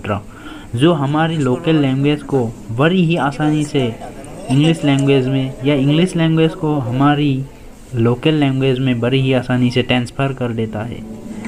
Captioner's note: local language